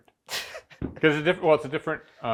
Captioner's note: speaker laughing